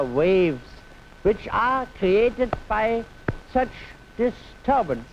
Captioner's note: claps hands